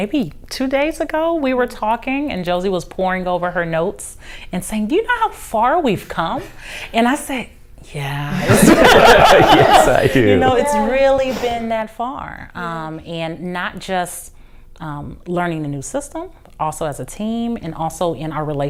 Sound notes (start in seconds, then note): 8.4 laughter